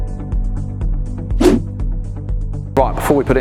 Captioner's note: logo whooshing